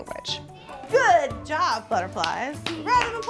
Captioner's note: claps